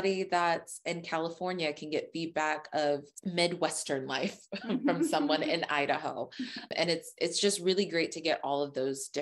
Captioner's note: laughs